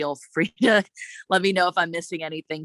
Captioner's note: chuckles